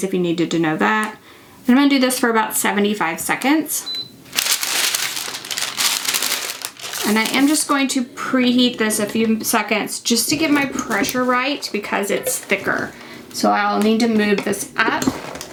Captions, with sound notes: if you needed to know that. And I'm going to do this for about 75 seconds. (heat press bleeps) (paper crinkles) And I am just going to preheat this a few seconds, just to get my pressure right because it's thicker. So I'll need to move this up.